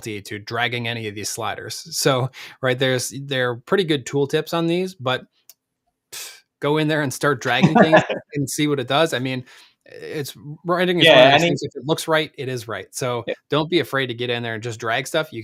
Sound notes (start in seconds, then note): 7.4 laughs